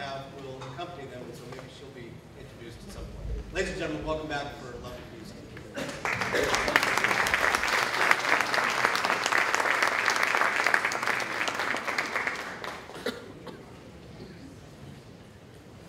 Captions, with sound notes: And I believe the harpist, whose name I do not have, will accompany them, and so maybe she'll be introduced at some point. Ladies and gentlemen, welcome back to For the Love of Music. [ applause ]